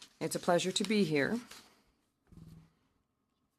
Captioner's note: speaking French